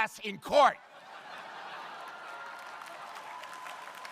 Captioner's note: crowd laughing; crowd applauding